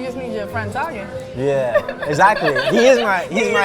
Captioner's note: laughs